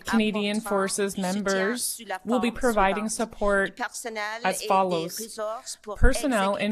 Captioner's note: speaking French